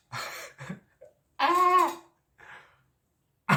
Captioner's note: screams